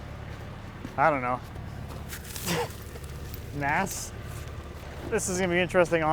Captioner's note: laughs